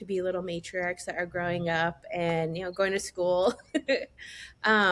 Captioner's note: laughs